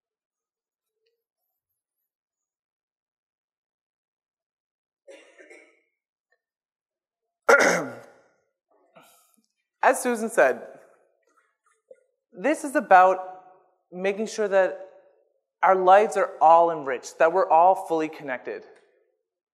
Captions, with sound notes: [coughs] As Susan said, this is about making sure that our lives are all enriched that we're all fully connected.